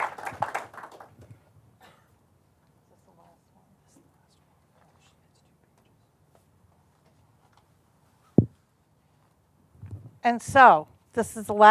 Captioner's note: applause